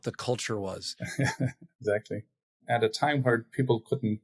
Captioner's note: laughs